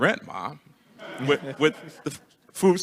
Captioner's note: attendees laughing